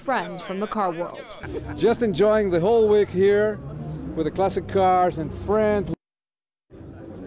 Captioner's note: laughter